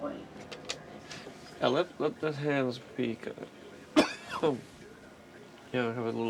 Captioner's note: coughing